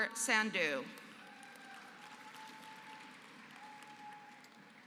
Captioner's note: applause